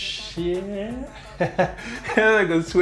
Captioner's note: laughs